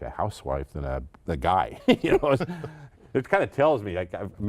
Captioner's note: laughing